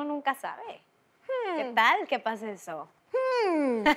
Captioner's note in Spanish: Ríe